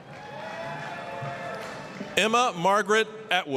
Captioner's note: applause, cheering